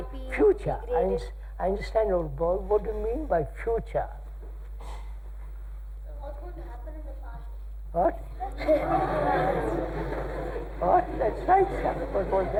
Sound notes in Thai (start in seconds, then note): 8.4 หัวเราะ